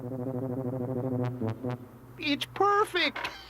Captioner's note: chuckles